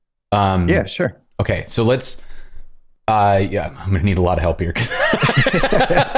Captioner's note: laughter